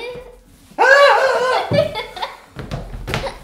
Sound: laughs

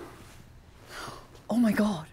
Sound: inhales

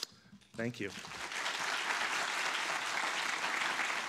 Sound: audience clapping

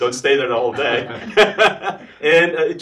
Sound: laughs

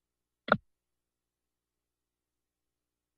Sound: silence

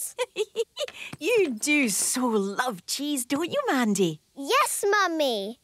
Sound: giggling

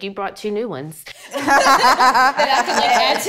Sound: all laugh

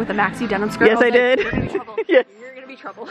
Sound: laughs

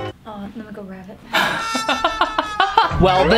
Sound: laughs

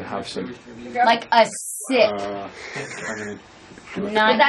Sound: laughs

